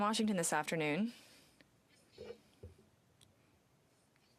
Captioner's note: speaking in french